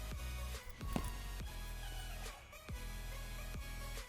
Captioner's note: foot thuds